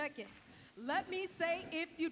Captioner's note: none